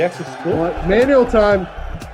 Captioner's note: bell ringing